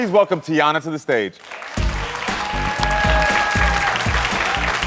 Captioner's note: audience cheering